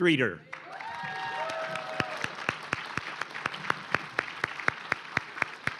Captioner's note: cheering & applause